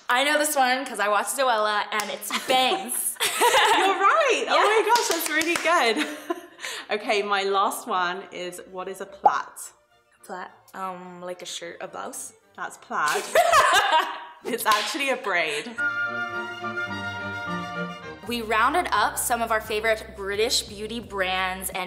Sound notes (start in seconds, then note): 3.4 laughs; 13.1 laughter; 15.6 orchestra music